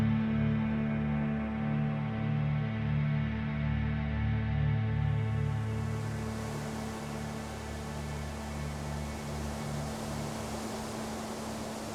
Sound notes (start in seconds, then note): 2.1 ominous music continues; 5.8 wind rustling